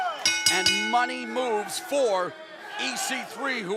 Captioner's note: bell ringing